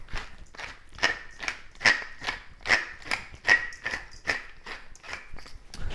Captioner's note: pepper grinder rattling